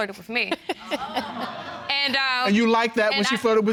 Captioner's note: audience laughing